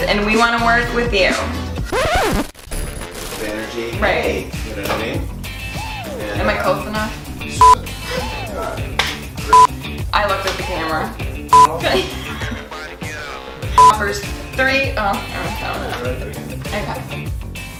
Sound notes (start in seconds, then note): 1.8 record scratching; 2.0 lively, melodic music; 7.6 beeping; 9.5 beeping; 11.5 beeping; 11.8 laughs